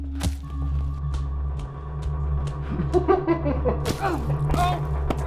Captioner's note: hammer thudding